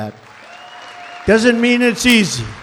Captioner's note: applause